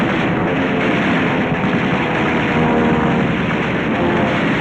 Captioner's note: heavy gunfire